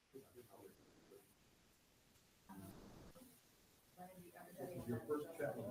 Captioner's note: indistinctive chattering